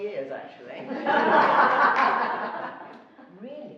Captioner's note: laughing